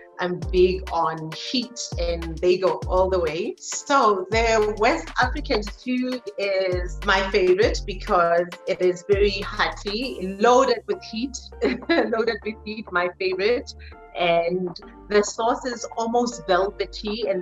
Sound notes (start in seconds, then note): 11.6 chuckles